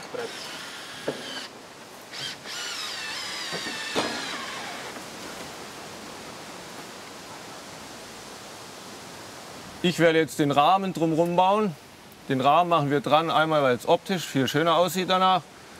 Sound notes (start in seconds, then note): 2.9 buzzing in the background; 6.5 rustling of leaves